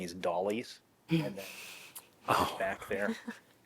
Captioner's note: laughter